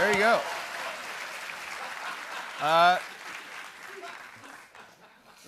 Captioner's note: applause